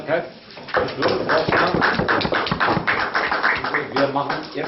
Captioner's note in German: Applaus